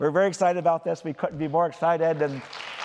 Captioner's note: applause